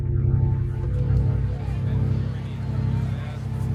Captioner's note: chattering